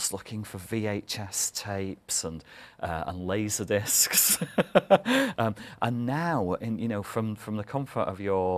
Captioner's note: laughter